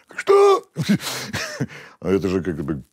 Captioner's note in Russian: усмехается